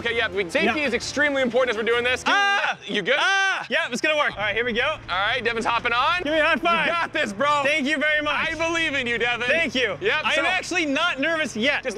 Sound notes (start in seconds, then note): 2.3 screams